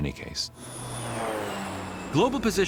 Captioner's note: aircraft roaring